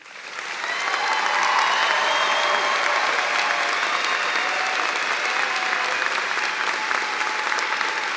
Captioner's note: cheers and applause